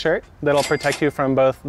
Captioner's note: cash register dings